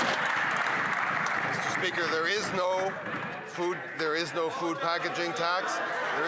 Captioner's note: some Applause